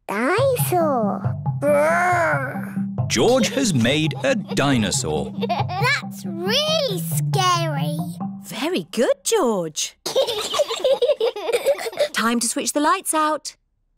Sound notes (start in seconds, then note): 10.0 both giggle